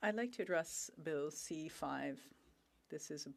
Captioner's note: speaking French